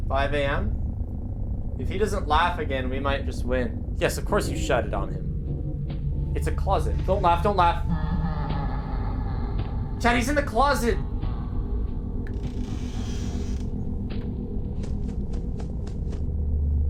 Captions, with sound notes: 5 AM If he doesn't laugh again, we might just win. Yes of course you shut it on him, it's a closet. Don't laugh, don't laugh! (Freddy laughs) Chat, he's in the closet!